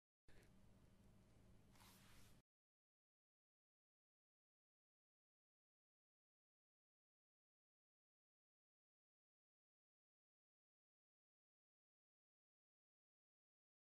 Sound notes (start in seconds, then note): none